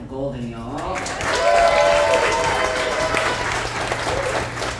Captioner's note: audience applauds